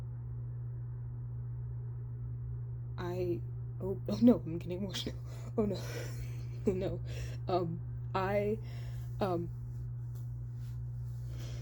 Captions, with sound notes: I--oh. Oh no, I'm getting emotional, oh no (light laughs). Oh no, um, I..